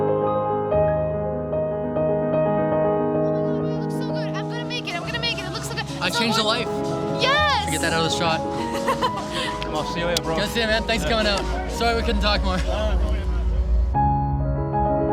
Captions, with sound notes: - I'm gonna make it, I'm gonna make it! It looks so good! - I changed a life. - Yes! - Can I get that other shot? (laughing) - Nice to see ya later, bro. - Nice to see you man. Thanks for coming out. Sorry we couldn't talk more.